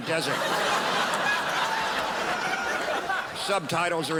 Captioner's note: crowd laughs